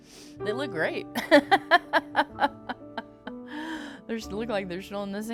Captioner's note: laughing